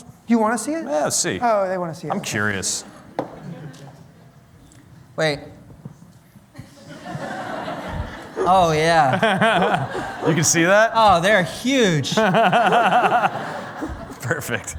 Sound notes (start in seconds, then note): 6.5 laughter